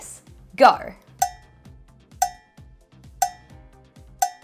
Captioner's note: clock ticking